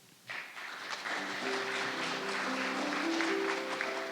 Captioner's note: audience laughing; soft piano music